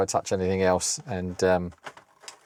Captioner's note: keyboard Clacking